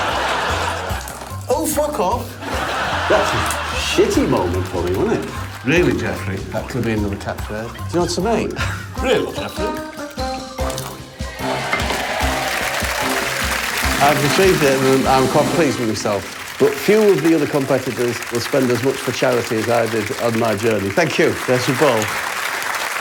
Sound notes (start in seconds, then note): 8.9 applause